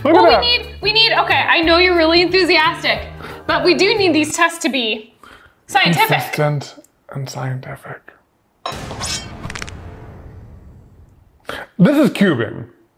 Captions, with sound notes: But we need, we need, okay. I know you're really enthusiastic, but we do need these tests to be... scientific. Consistent, and scientific. (knife whooshing) (bones cracking) This is cubing.